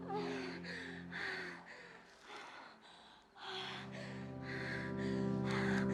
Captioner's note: insects chirping; gentle music